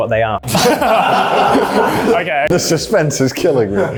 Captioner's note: everyone laughs